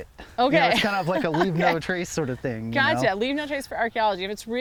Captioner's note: laughs